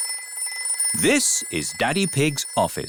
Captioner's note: phone rings